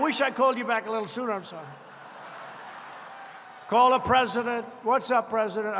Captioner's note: laughter